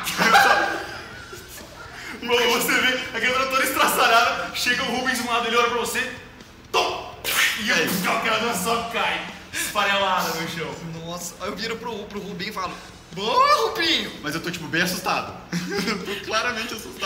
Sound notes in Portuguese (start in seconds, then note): 0.0 Risadas; 7.9 Puff